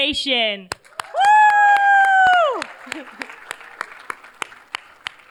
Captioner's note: cheers, applause